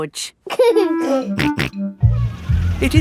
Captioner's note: giggling and snorting